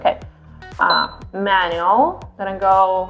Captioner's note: beeping